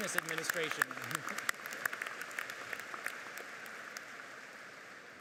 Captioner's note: audience applauds